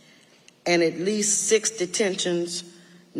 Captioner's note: none